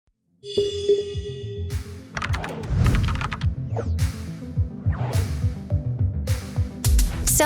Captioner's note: soft music; keyboard typing